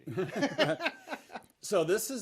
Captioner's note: laughs loudly